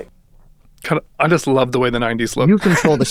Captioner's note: chuckles